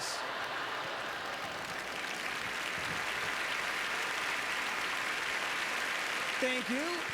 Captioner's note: applause; audience laughter